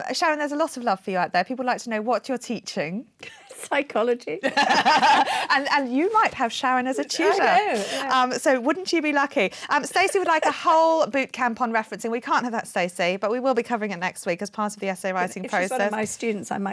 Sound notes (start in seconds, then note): 4.4 chuckling; 4.4 laughing